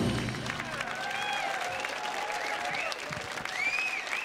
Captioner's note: audience applauding